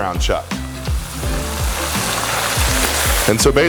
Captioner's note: sizzling